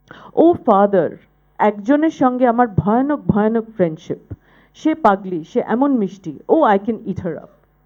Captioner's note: speaking bengali